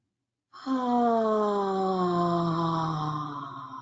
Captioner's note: sighs